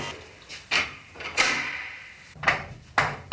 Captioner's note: buzzing stops